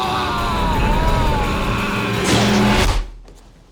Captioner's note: spits